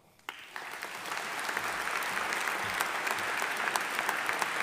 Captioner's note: audience applauding